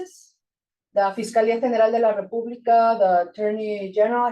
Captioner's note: speaking Spanish